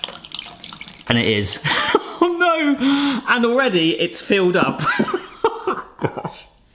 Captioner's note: chuckles; laughs